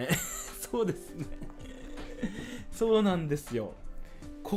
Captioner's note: laugh